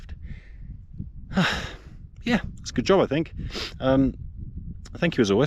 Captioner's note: sighs